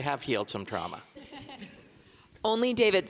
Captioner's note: audience laughing